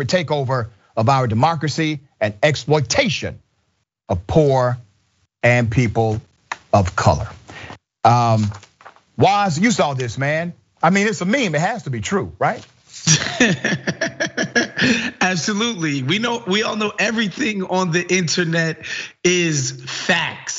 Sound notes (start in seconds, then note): 13.0 laugh